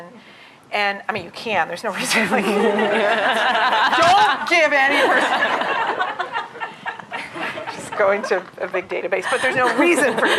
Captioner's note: laughter